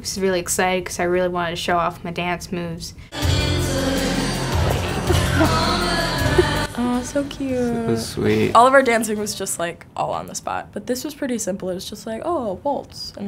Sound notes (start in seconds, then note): 4.4 both giggle